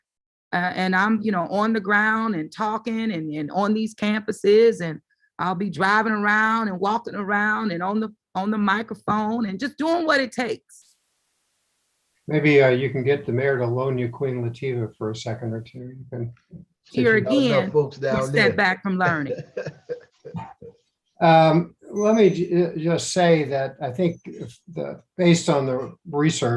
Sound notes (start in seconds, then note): 19.0 laughing